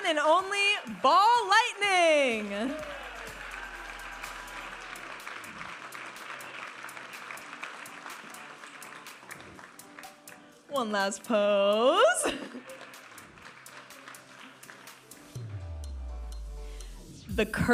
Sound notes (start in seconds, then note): 3.0 audience applauding and cheering; 5.9 vibrant music; 12.4 audience applauding